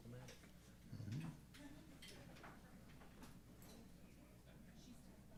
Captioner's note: chatter